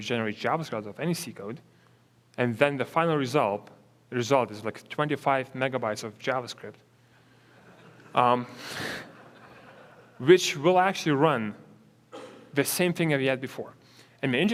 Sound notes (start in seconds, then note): 7.5 audience laughs